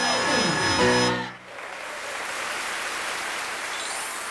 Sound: applause

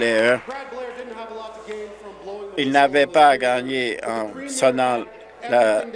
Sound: some Applause

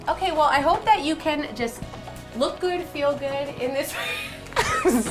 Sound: laughs

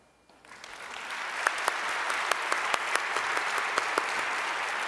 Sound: audience applause

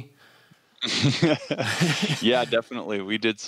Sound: laughs

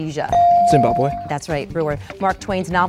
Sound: dinging

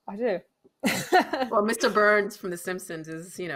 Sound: laughing

